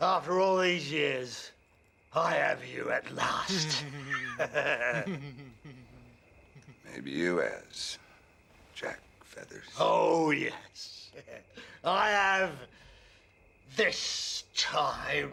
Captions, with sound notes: After all these years, I have you at last! (men laughing) - Maybe you has, Jack Feathers. - Oh yes, I have this time! (chuckling)